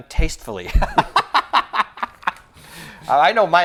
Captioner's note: laughing